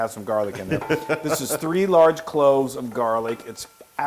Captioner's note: laugh